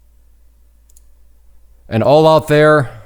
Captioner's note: mouse clicks